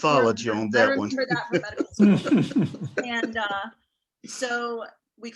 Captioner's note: panelists laughing